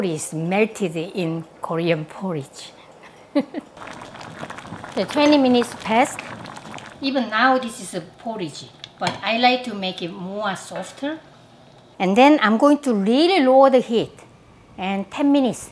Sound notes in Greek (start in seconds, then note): 3.1 γέλιο